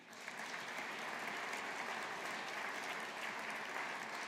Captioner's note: audience applauding